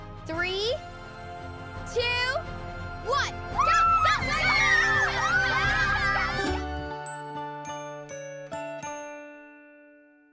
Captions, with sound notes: Three, two, one, go! (cheering) (playful music)